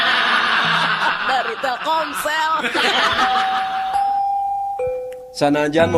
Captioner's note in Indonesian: tertawa